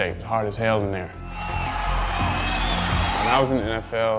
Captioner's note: cheers